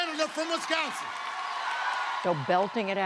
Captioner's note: cheering and applause